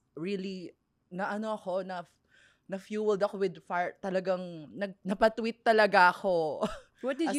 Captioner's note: laughs